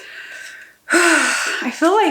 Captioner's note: dramatic sigh